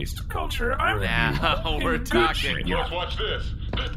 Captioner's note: laughing